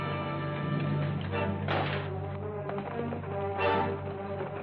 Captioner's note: horses trotting